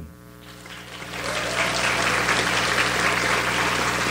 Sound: audience applauds

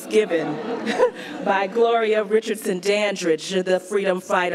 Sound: laughs

